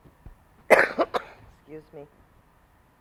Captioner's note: coughs